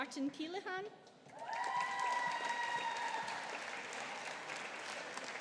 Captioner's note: audience applauding